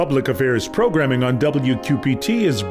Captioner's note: voiceover